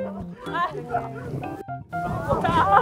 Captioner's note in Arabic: يضحك